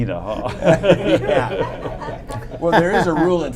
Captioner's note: laughter